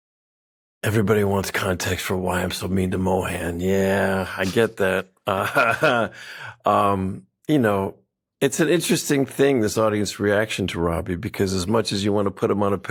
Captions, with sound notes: Everybody wants context for why I'm so mean to Mohan. Yeah, I get that. (LAUGHS) Um, you know, it's an interesting thing, this audience reaction to Robby, because as much as you want to put him on a pedestal